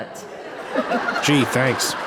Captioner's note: audience laughs